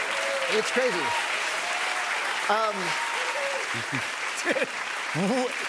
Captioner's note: clapping